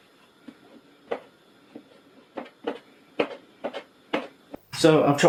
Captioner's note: mushroom chopping sounds